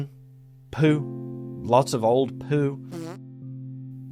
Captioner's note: quick, wet, cheek wobbling fart sound